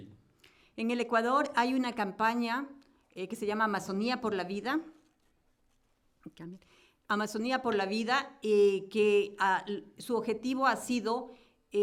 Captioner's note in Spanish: Español